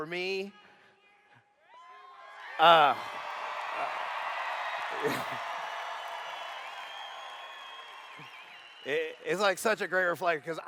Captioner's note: cheers